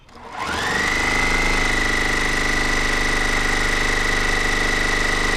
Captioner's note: sewing machine roaring